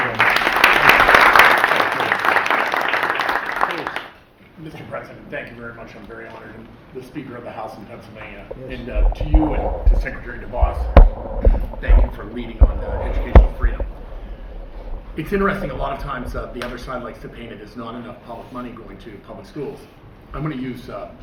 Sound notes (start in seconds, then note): 2.6 applause